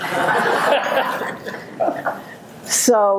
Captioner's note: audience laughing